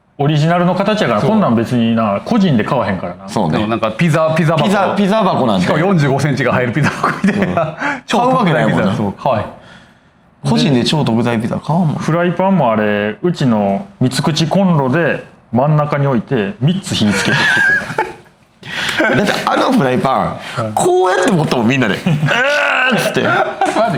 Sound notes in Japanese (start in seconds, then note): 6.8 笑い; 17.0 笑い; 21.8 笑い